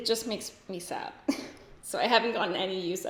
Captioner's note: giggles